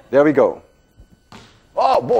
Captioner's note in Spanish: Rebote de balón